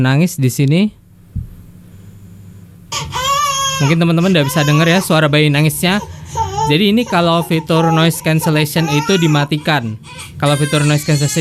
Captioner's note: voice speaking in baby crying background